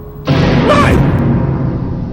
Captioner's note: scream